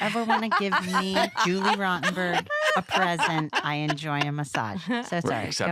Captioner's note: laughter